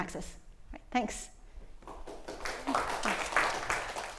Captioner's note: applause